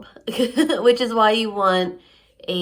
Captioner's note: laughs